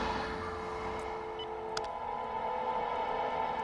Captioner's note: dial tone; phone beeps